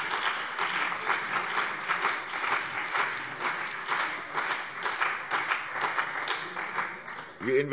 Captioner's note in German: Beifall CDU und BÜNDNIS 90/DIE GRÜNEN